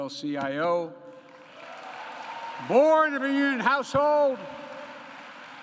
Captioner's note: applause